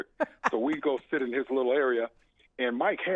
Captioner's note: laughs